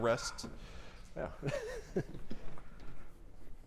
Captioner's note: chuckles